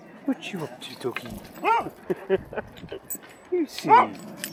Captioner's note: dog barking